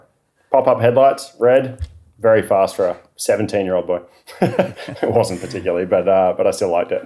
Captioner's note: both laughing